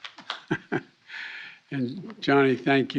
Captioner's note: laughs